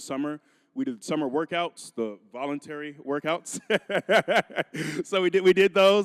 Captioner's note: laughing